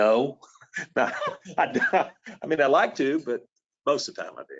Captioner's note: laughs